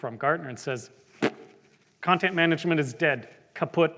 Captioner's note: blows Raspberry